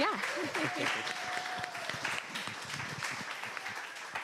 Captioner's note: audience applause